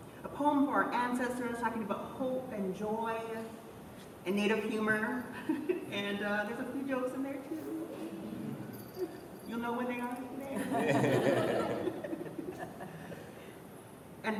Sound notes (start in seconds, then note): 7.4 laughs; 10.5 laughter